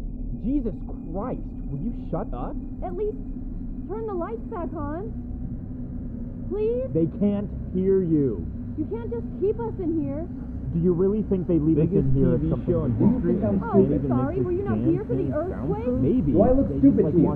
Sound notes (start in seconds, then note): 2.8 muffled female voice